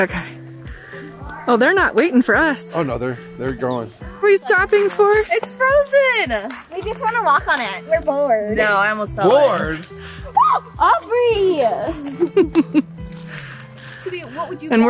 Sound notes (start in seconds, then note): 10.3 screams; 11.8 laughs